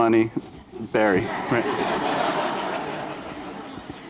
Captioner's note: laughter